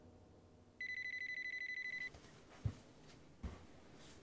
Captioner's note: phone ringing